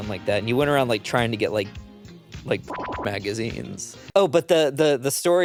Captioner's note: beep